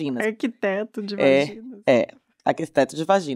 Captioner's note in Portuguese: com riso na voz